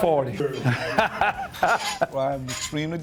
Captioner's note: laughs